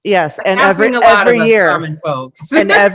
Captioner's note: chuckles